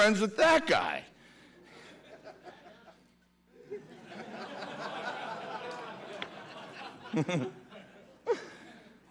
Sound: laughter

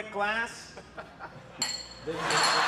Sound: man in blue shirt laughs; glass clinks; audience laughs

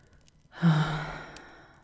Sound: sighs

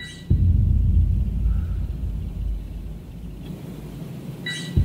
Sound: whistle sound

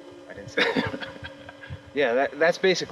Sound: laughs

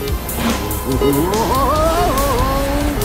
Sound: exclaiming

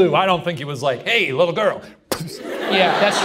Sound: spits; audience laughs

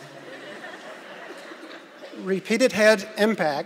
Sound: laughing

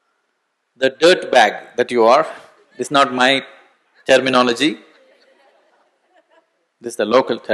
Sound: laughter

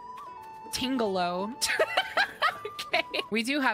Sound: laughter

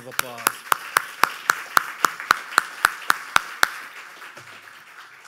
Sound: audience applauding

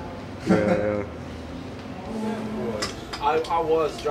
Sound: laughing

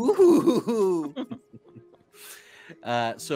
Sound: group chuckling

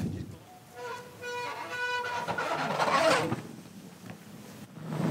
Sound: wheels creaking

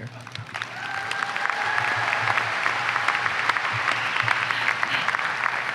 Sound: applause

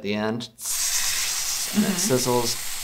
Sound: sizzling

